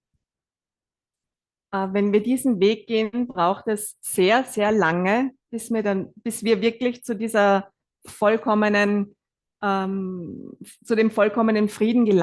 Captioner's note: German live translation